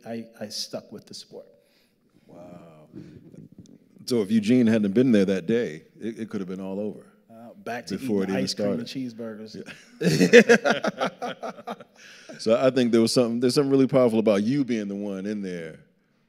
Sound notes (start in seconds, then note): 9.6 both laughing